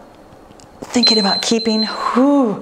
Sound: timer beeps

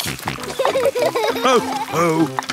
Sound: snorting; laughter

